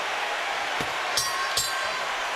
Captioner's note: bell rings